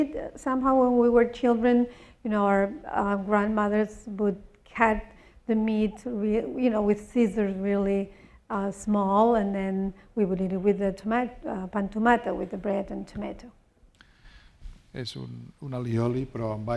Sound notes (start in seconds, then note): 11.8 spanish; 15.6 speaking spanish